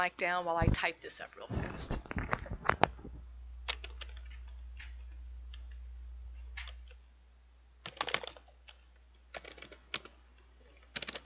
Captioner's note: sounds of typing